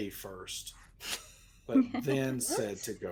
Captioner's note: laughs